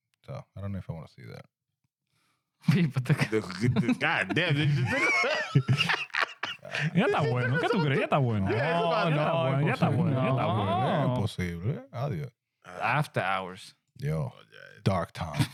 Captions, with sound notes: So, I don't know if I want to see that. God damn, dude. (Laughing) (Speaking In Foreign Language) I'll see you later, I'll do it. After hours. Yo, dark time.